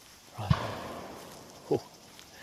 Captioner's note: bang